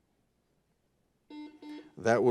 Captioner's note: buzzer buzzes